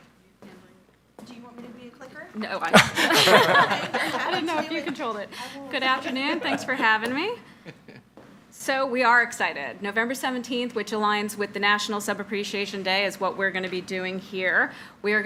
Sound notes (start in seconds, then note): 2.6 chuckles